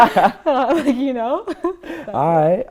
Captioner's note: laughter